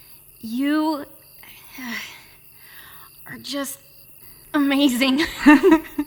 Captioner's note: exhaling; giggles; laughing